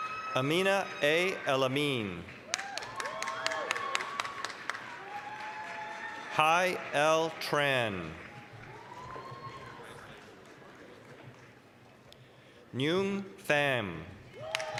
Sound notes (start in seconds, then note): 0.0 applause, cheering; 2.7 applause, cheering; 8.8 applause; 14.3 applause, cheering